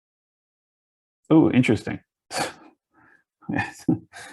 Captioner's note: chuckles